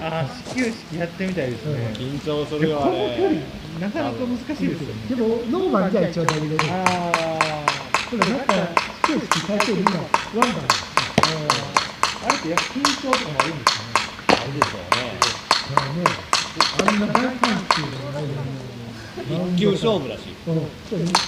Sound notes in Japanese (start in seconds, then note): 7.4 あぁ～; 10.5 あぁ～